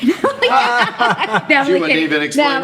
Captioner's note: laughing